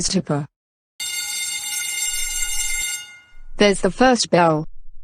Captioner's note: bell Rings